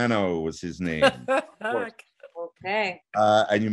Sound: laughing

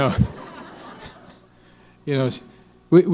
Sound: audience laughing

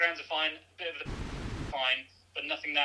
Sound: static buzzes

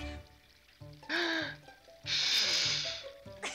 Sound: inhales and blows; chuckles

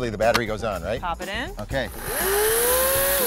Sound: saw sound

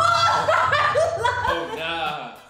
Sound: shouting

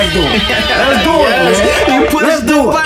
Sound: siren sounds

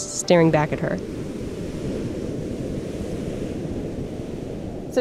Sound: waves rolling

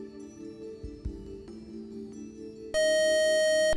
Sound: beeping

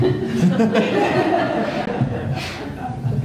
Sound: laughing

